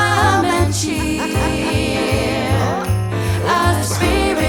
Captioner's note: Hattie laughs